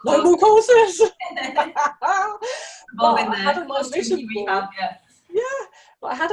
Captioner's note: both laughing